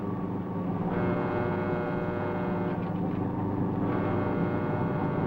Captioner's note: alarm blaring